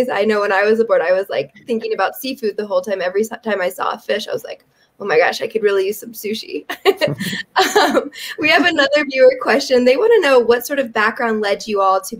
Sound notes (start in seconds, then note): 6.7 chuckles